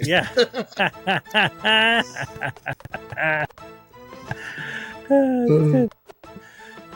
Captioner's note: laughing